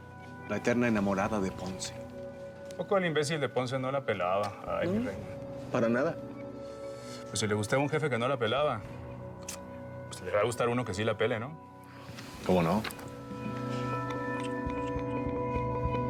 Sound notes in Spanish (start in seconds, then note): 9.4 chasquido bucal